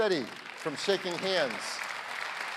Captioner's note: applause